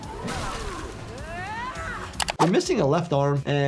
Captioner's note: character screams